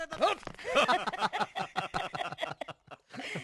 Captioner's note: all Laughing